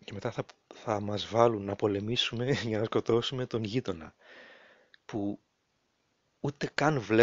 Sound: laughs

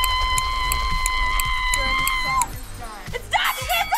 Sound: clock ticking

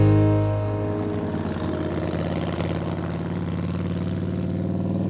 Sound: motorcycle rumbling

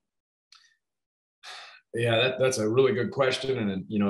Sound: sighs

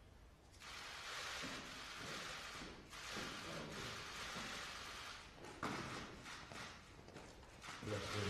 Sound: camera clicks

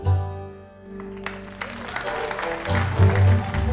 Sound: audience applauding; bluegrass music

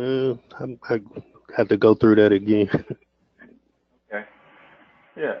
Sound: laugh

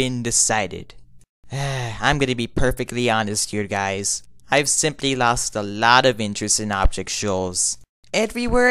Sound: sighs

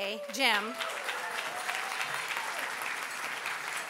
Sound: applause

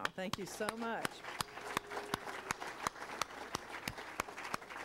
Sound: applauding

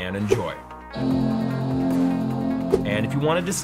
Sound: computer chimes

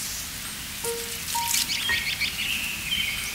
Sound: birds chirping

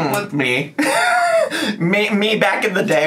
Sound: laughs

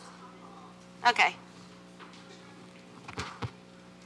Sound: mic static

